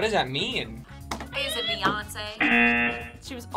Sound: buzzer sounds

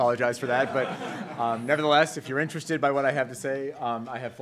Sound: laughs

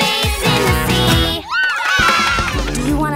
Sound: cheering

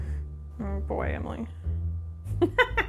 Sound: laughs

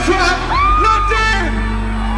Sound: thrilled "ahh!" by fan

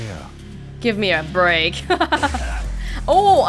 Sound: chuckles

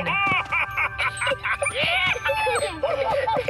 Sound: excited laughter

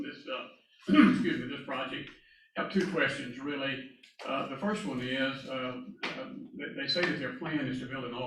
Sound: cough

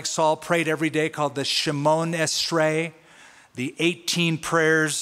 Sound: non-english speech

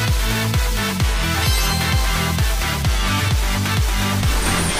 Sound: star clinking

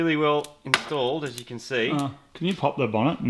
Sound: electrical sparks

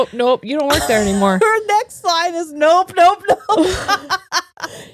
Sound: laughs

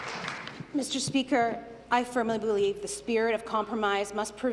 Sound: applause

